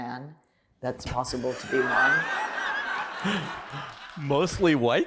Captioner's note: laughter